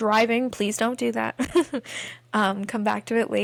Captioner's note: laughter